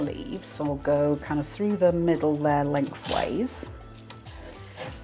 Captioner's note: cruchy tearing